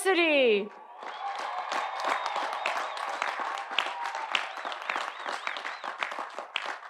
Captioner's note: audience applauding; audience cheering